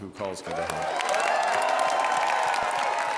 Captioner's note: applause